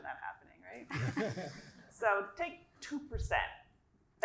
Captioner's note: laugh